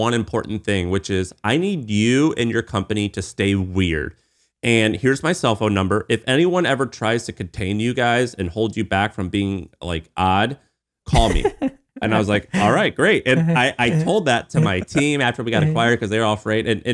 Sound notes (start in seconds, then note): 12.0 laughing